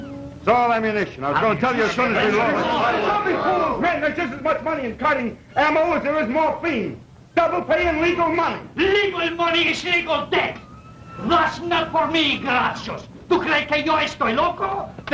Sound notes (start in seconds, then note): 1.8 commotion; 8.5 broken English; 14.9 Spanish